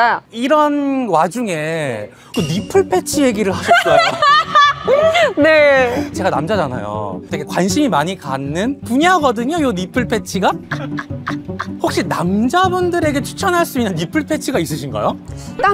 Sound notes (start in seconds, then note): 10.6 laughs